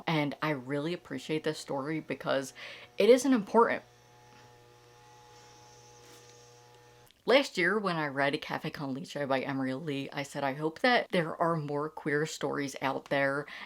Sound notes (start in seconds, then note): 3.4 lawn mowing in the background